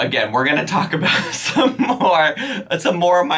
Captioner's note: laughs